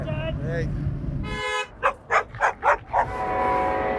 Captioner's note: car horn; dog bark; train horn